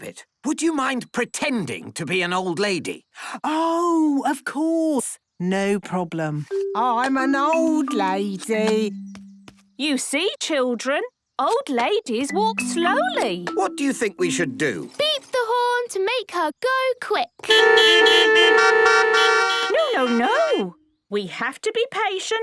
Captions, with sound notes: would you mind pretending to be an old lady? - Oh, of course. No problem. I'm an old lady. - You see, children, old ladies walk slowly. - What do you think we should do? - Beep the horn to make her go quick. (beeping) - No, no, no. We have to be patient,